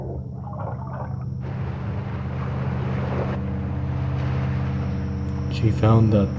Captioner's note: water rising